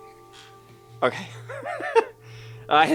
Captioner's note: laughs